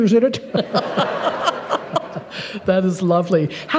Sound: laughter

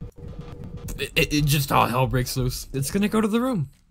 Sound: stammering

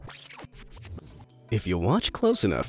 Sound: image screeching

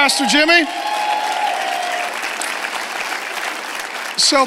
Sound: congregation cheers and applauds

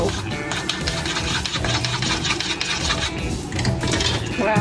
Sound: chopstick scraping

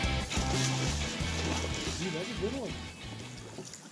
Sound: rod Breaks

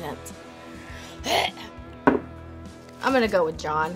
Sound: gags

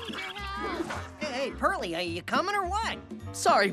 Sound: chattering

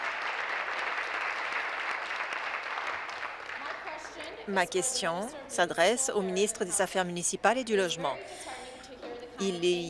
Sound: applause

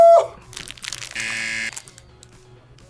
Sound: buzzer

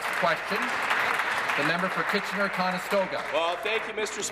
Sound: applause

